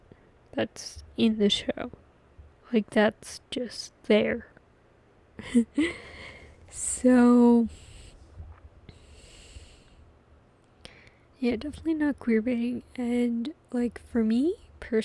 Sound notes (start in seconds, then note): 5.4 laughs